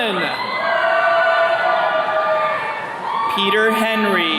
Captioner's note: attendees cheering